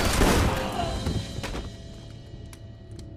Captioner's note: man screaming